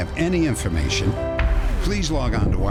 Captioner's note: boom